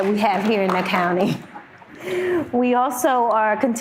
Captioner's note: audience member clapping